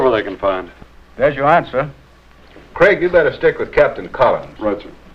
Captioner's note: none